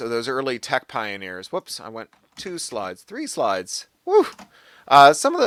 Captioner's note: vocalises surprise